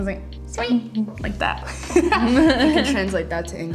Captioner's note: laughs